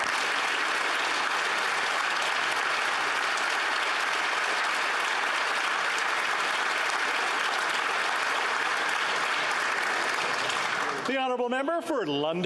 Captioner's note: applause